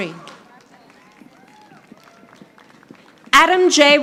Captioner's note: audience applauding